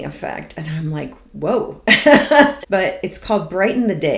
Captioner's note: laughs